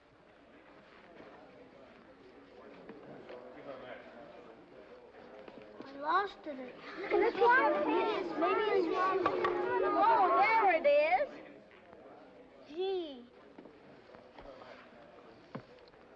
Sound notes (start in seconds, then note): 7.0 children clamoring